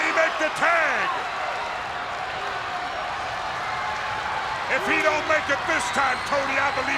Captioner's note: applause